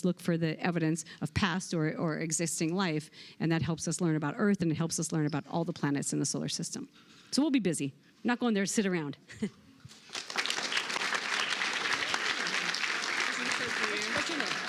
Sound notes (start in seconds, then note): 10.0 applause